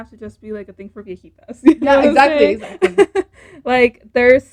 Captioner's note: even more laughter